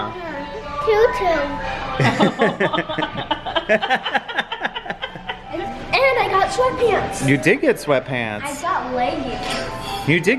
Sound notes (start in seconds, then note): 2.0 laugh